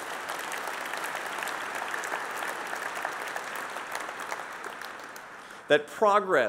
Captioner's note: applause